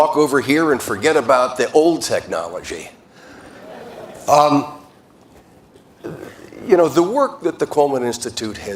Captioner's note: laughter